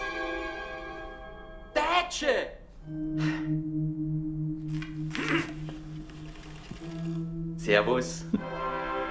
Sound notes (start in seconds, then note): 1.6 speaks Austrian German